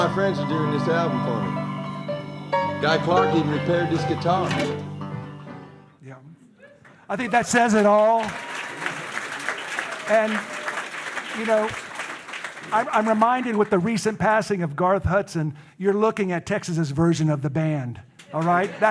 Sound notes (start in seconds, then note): 7.2 audience applauding